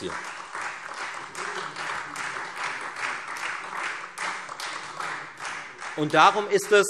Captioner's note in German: Beifall Freie Demokraten und SPD